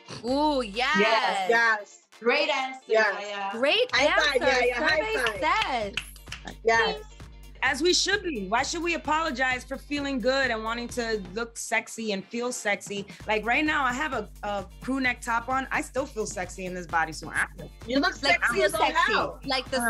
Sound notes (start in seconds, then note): 5.0 cheering and clapping